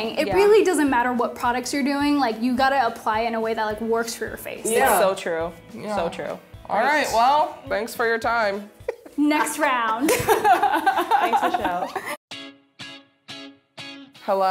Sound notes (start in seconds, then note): 8.8 laughing; 12.3 lively music